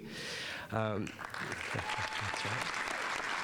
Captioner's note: audience applauding